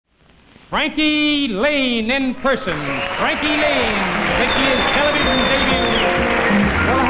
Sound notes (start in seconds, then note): 2.2 audience clapping